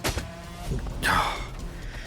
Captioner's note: sigh